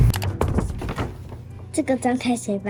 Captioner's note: in Mandarin